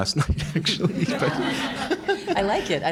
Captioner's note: audience laughing